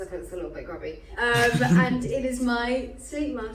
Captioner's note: laughing